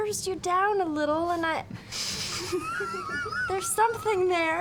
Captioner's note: cracks up